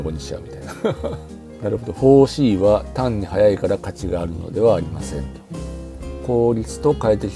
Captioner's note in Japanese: 笑い